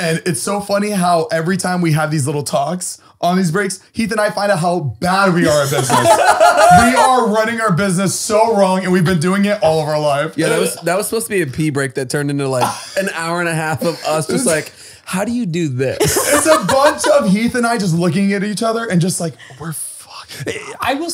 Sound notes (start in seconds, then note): 5.4 all laughing